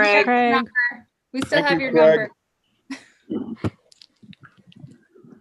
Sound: chuckles

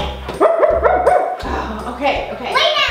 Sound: gorilla barking

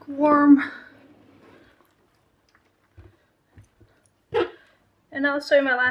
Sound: sound of hand pushing petticoat in starchwater

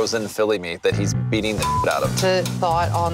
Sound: beeping

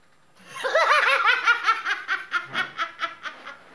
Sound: cackling

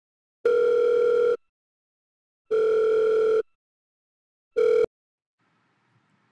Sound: dial Tone

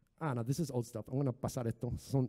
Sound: speaking in foreign language

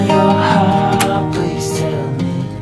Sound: door locked

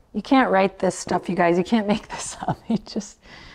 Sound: laughs

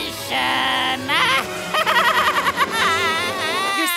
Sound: Creepy Hojo laugh

